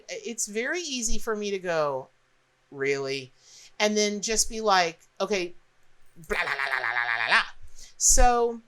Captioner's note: angry noise